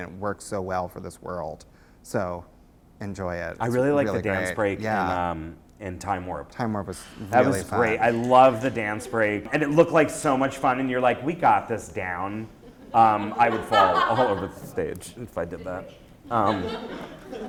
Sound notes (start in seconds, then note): 3.9 voiceover; 12.6 laughter